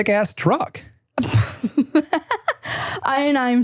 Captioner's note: person laughing